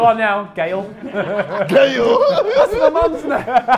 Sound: laughs

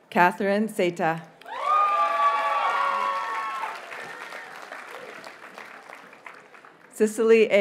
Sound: audience cheers and applauds

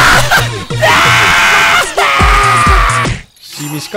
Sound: maniacal cry

